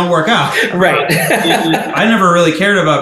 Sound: laughing

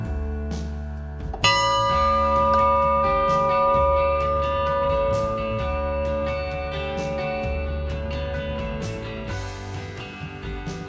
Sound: bell ringing

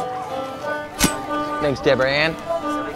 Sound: knife chopping

